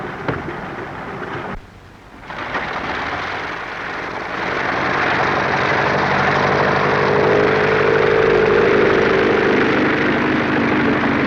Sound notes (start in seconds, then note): 6.2 plane taking off